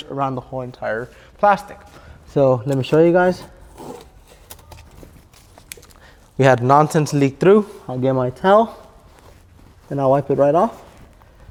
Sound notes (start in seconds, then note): 2.6 tape ripping